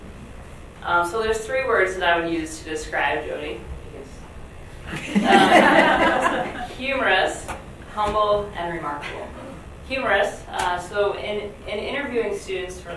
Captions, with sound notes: - So there's three words that I would use to describe Jodie. (audience laughs) Humorous, humble, and remarkable. Humorous, so in interviewing students